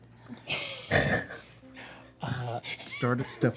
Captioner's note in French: rient